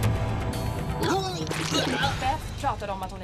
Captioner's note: vomits